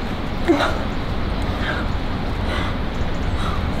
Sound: grunts

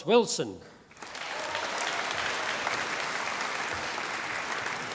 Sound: audience applauding

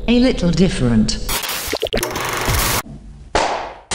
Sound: static; clap

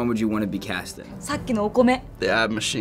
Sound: speaking Japanese

